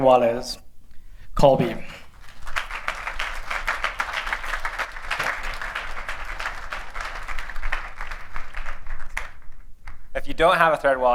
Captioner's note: applause